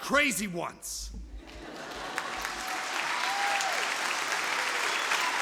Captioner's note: audience applause